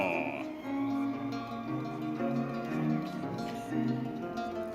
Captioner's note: audience cheering